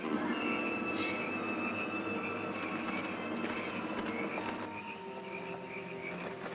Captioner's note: suspenseful music; insects chirping